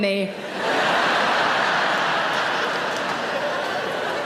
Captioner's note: audience laughs